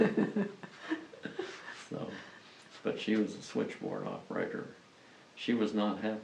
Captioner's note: laughs